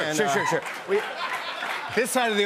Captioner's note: applause